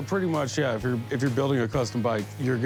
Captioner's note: none